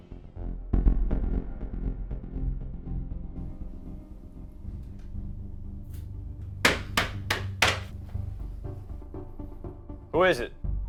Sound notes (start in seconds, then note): 6.6 door knocking